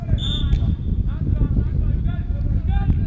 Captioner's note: whistle